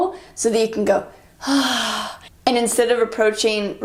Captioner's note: exhaling